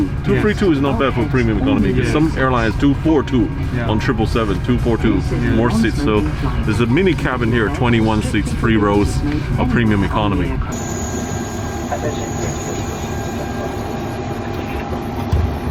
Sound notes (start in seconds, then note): 10.9 plane engine roaring